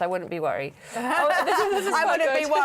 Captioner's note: laughter